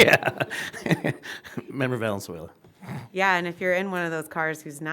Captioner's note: laughter